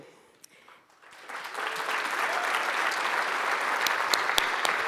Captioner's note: audience applauds